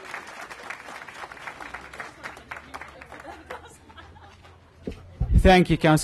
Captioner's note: applause